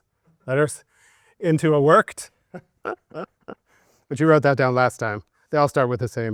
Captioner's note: laughing